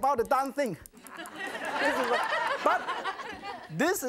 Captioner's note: audience laughs